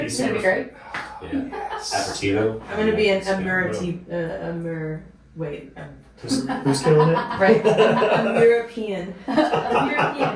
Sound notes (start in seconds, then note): 6.3 laughing